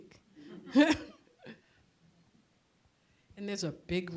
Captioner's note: chuckling